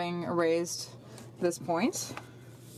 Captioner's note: speaking in French